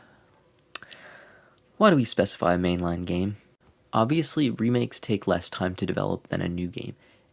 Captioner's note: sighs